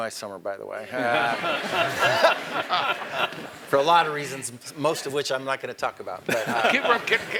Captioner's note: laugh